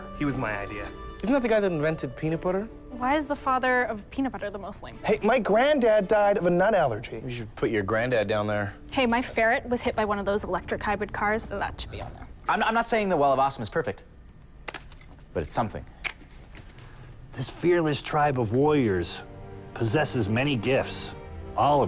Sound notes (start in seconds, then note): none